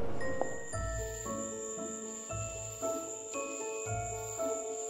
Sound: crickets chirping

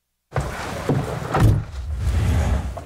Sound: Jeep door closes

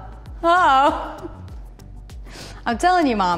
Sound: laughs

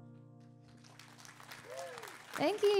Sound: audience cheering

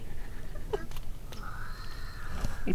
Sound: whispers

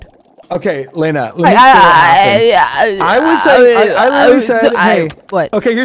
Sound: silly noises

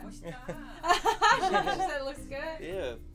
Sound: laughing

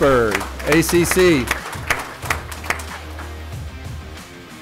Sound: applause

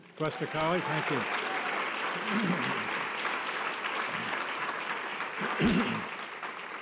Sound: audience applause

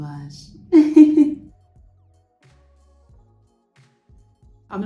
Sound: laughing

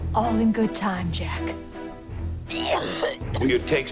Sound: coughs

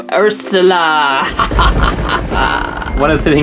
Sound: evil laugh

